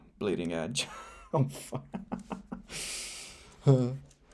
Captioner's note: laughs